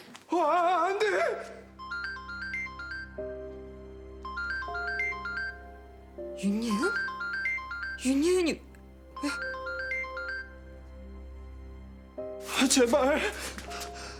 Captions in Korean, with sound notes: -아아아, 안 돼! -(휴대전화벨 소리) -윤예은? 윤예은이 왜... -아, 제발.